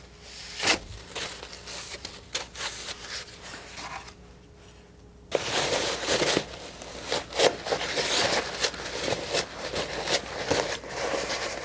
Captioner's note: scratching